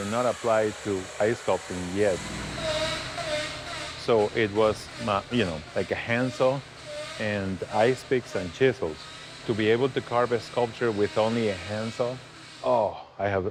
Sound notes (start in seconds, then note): 4.0 saw cutting ice